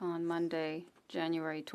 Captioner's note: speaking French